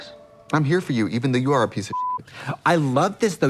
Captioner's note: beep